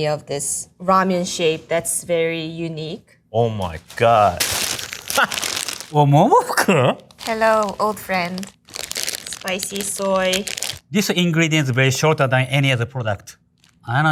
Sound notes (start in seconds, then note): 4.9 laughing